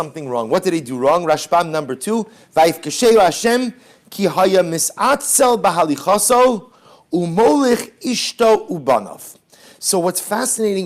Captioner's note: Hebrew